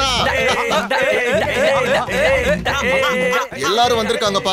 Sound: hooting

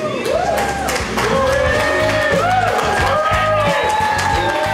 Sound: crowd cheering

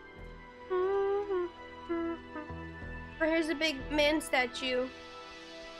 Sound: humming

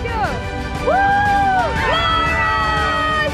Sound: kids cheering

